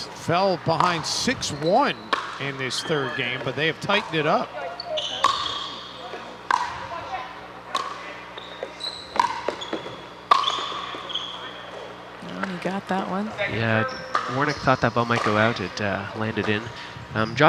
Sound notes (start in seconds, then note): 4.7 ball bouncing